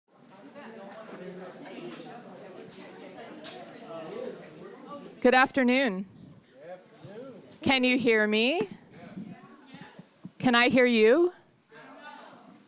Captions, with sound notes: -Good afternoon. [crowd sparsely responds] Can you hear me? Can I hear you? [crowd sparsely responds]